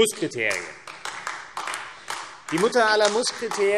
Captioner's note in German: Beifall AfD